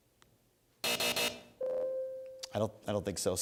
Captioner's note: buzzer